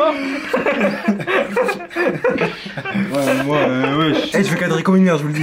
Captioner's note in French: Rire commun